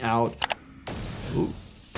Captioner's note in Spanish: vidrio roto